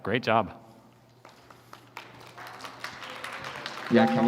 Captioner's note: applause